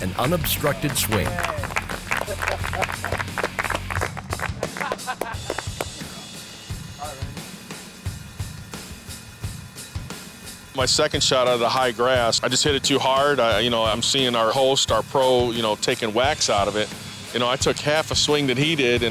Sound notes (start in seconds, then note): 3.0 apapplplauausese; 4.6 lalaugughthterer